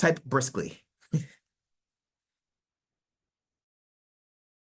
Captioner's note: chuckling